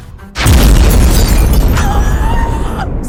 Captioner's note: explosion; screams